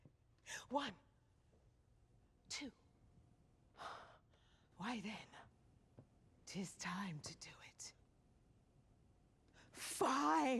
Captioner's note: sighs